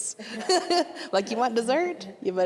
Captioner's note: all laughing